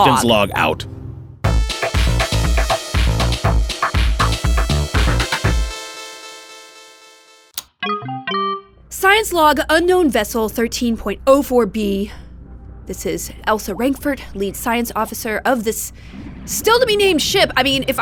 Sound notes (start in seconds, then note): 1.4 musical interlude; 5.8 electronic sounds